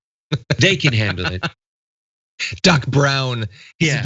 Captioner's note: laugh